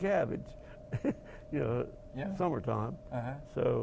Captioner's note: laugh